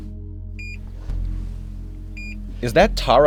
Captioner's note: monitor beeping